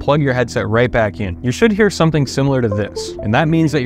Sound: Windows device plugged in sound

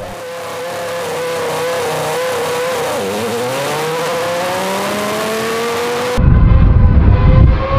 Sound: engine sound

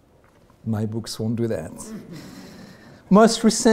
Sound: audience laughing

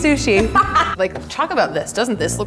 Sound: laughter

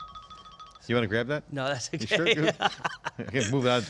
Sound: laughter

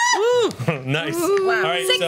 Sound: cheers

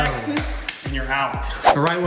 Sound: claps

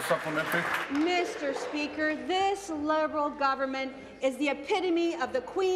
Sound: applause

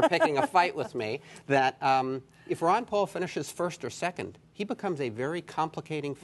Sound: laughter

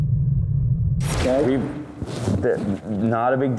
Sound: air whooshing

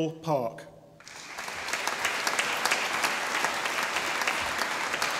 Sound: audience applauding

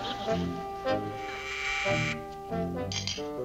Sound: doorbell buzzes

